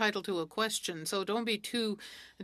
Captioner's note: speaking French